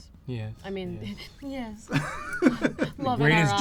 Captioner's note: laughs